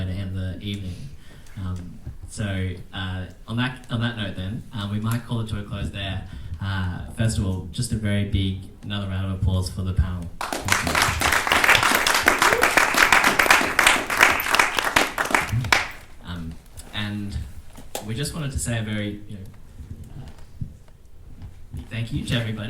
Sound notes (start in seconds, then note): 10.4 attendees clapping